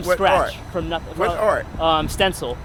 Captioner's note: voiceover